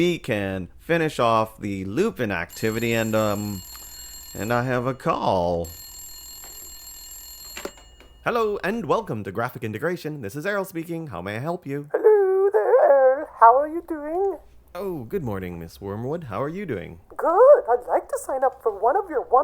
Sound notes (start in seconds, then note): 2.5 rings; 7.2 ring